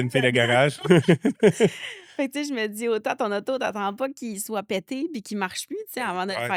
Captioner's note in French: rires